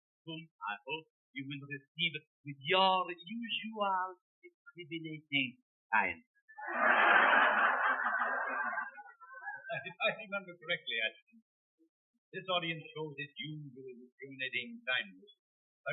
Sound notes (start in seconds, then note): 6.6 audience laughs; 9.5 laughing